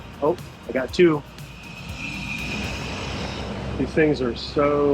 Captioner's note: tanks whirring